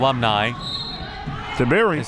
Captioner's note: whistle